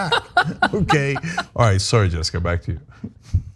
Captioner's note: laugh